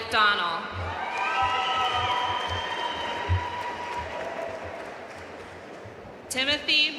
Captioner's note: audience cheering and applauding